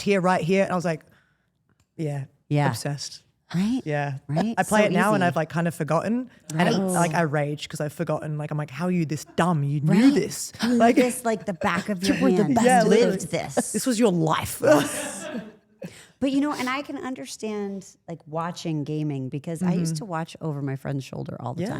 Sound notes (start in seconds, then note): 14.7 someone off camera laughs